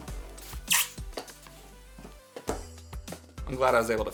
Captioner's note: balloon squeaks